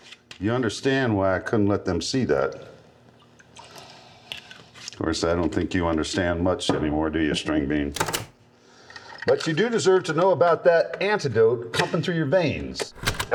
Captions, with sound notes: You understand why I couldn't let them see that? Of course I don't think you understand much anymore, do you string bean? [click] But you do deserve to know about that antidote pumping through your veins. [click]